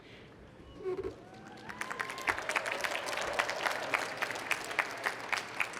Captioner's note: applause